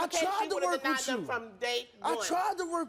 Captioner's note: yells over her